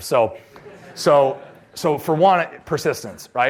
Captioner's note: laughter